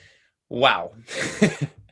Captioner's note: laughs